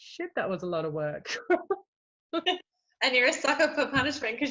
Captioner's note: laughs